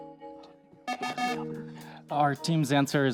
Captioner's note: times-Up Buzzer